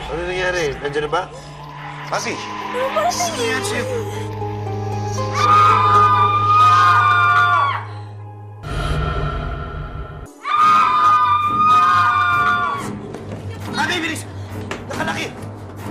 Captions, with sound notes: What happened? Are they here? Pampi... -Someone's approaching... -What's wrong with you? [all screaming] Pampi, hurry up! It's locked!